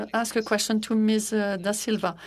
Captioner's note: speaking in French